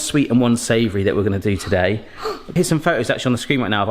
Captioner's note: gasps